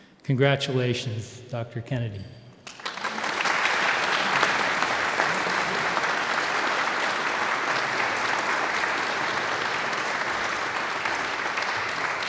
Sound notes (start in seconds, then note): 3.1 audience applauds